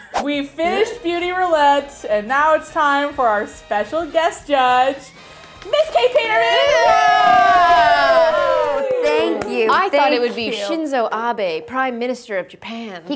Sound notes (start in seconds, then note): 5.6 cheering